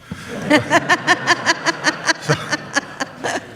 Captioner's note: audience laughs